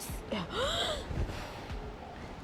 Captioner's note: gasp